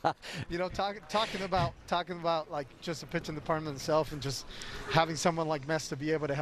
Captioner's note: laughter